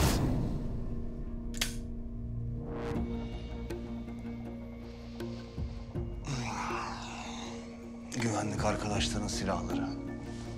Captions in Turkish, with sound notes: (Tetik sesi) (Nefes sesi) Güvenlik arkadaşların silahları.